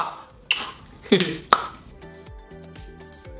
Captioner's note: clicks tongue; laughs; upbeat pop music